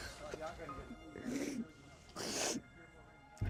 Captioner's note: sniffs